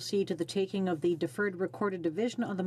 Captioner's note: speaking French